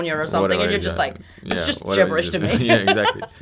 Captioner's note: laughs